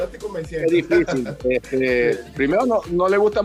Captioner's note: laugh